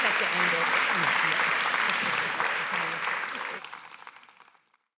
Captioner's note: audience applauding